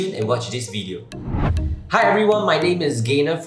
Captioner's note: swooshing